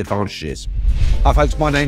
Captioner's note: banner whooshes